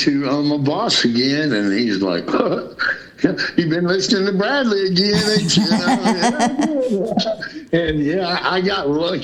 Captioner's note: laughter